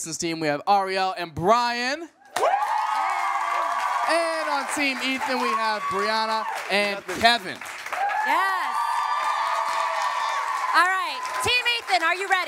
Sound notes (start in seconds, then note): 2.4 cheering, applause; 7.5 cheering, applause